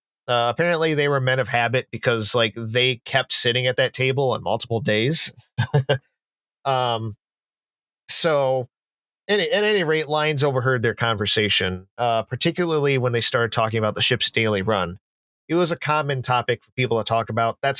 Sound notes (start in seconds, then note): 4.8 chuckles